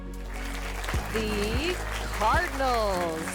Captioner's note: crowd applauds